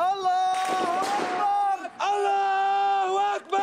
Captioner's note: men yelling in foreign language; gun fire